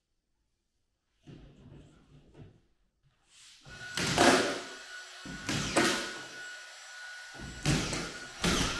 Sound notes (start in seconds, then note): 3.7 nail gun whirring